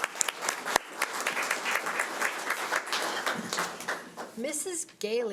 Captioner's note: audience applause